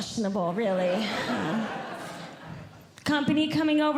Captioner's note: audience Laughing